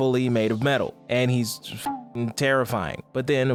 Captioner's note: beep